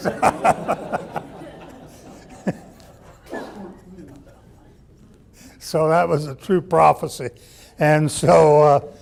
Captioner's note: laughs